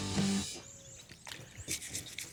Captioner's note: scrubbing